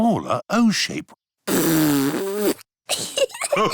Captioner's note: blows raspberry; laughter